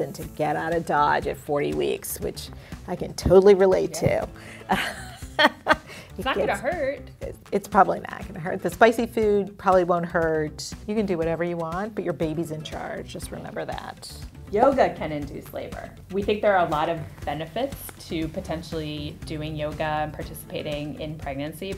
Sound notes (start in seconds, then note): 4.6 laughing